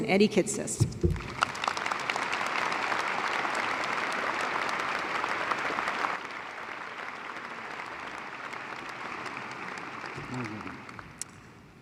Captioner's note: applause